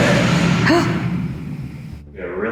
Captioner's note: gasps